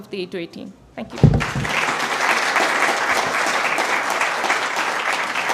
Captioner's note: applause